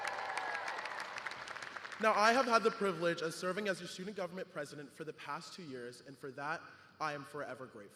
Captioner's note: cheers and applause